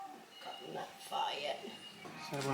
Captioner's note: indistinct chatter